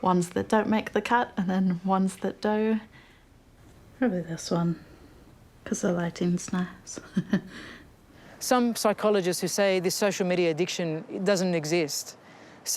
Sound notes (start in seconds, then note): 6.9 chuckles